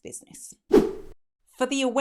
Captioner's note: swooshing